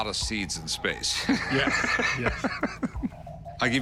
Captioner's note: laughter